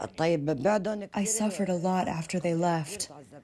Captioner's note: through translator